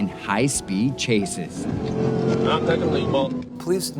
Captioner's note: car engine revving